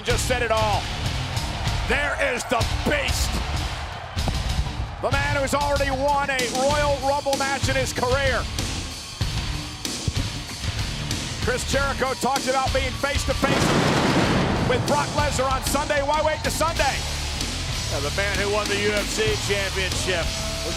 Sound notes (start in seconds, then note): 9.3 upbeat music; 13.4 fireworks explode